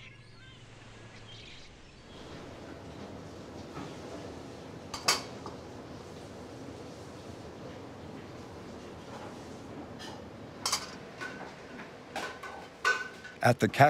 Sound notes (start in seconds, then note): 0.0 birds chirping; 5.1 molds clinking; 10.3 molds clinking